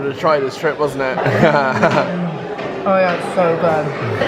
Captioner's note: laughing